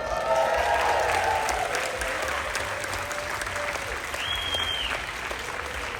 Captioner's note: applause, Cheering